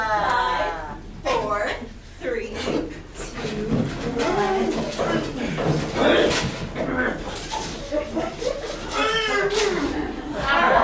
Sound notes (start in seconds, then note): 4.6 coughing, squealing; 9.4 laughter